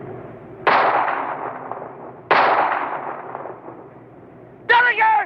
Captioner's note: gun shots